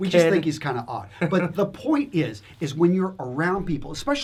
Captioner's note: laughs